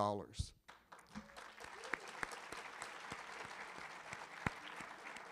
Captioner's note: audience applauding